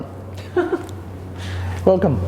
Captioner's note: laughs